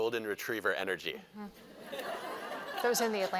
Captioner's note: laughter